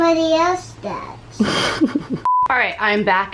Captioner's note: laughs